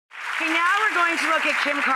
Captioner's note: audience applauds